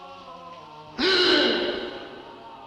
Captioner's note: gasp!